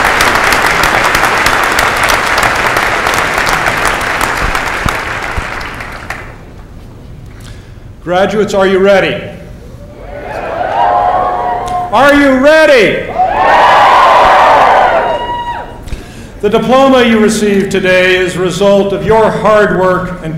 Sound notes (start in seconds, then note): 9.9 cheers